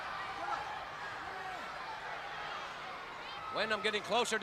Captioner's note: crowd chatter